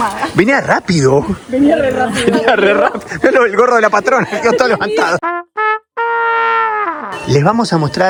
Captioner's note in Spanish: risas